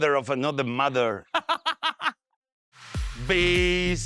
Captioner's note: laughs